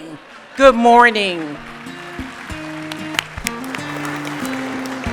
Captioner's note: applause